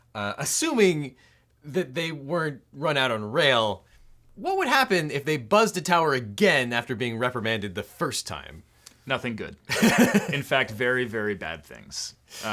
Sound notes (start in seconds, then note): 9.7 laughing